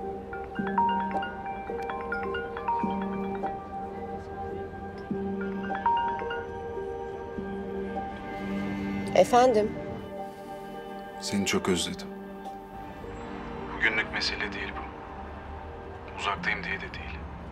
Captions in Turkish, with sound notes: (Telefon çalıyor) (Telefon ısrarla çalıyor) Efendim? Seni çok özledim. (Hakan ses) Bugünlük mesele değil bu, uzaktayım diye de değil.